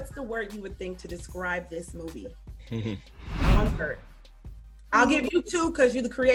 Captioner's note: chuckles